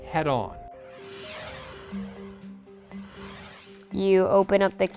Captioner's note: soft whooshing